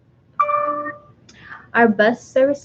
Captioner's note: computer dings